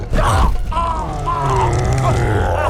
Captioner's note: man grunts